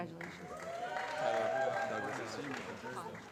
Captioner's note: applause